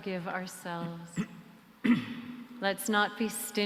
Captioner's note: clears throat